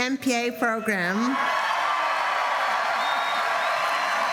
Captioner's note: applause